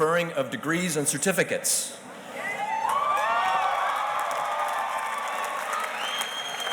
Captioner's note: audience cheers and applauds